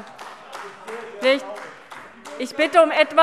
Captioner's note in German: Beifall AfD